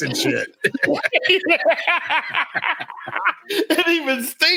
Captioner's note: laughs